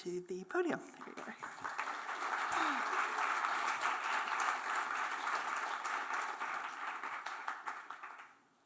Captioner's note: applause